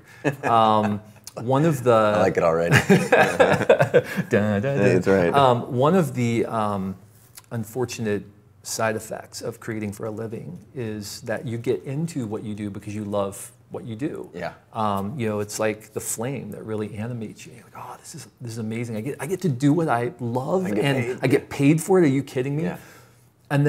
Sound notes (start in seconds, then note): 0.1 laughs; 2.7 both laugh